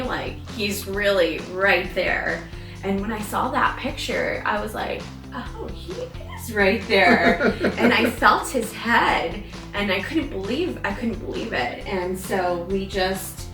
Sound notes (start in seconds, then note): 7.0 laughs